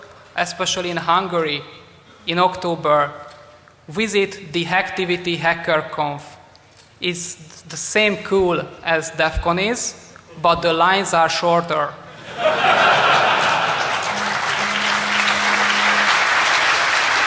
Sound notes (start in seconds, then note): 13.0 applause